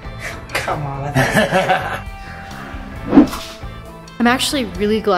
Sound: laughing

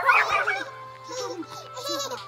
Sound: laughing

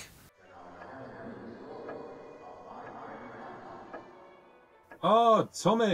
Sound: echoing

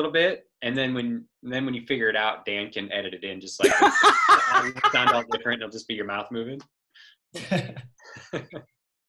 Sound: laughing

